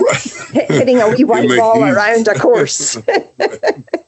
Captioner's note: laughs